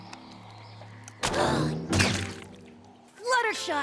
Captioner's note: gasps